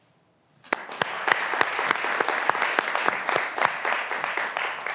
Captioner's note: graduands applauding